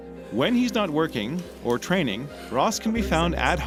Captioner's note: voiceover